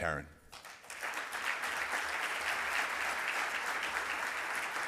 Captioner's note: audience clapping